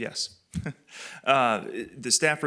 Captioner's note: laughs